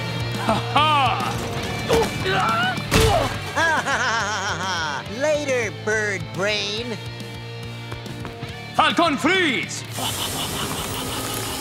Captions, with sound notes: Ha ha. Ooh. [screaming] [laughing] Later, Birdbrain. ! Falcon freeze!